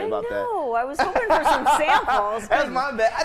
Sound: laughing

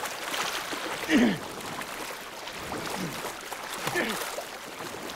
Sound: grunting and splashing

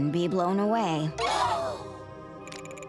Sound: gasping

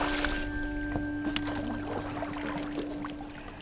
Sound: water splashing

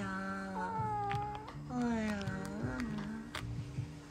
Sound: scritch-scratch

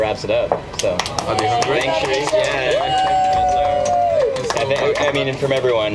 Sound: applause

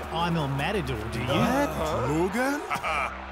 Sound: gasping

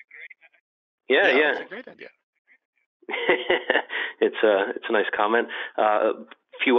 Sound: laughs

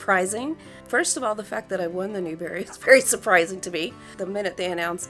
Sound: laugh

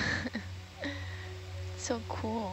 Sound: scientist 3 laughing

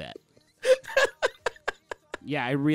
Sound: laughing

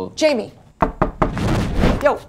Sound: knocking

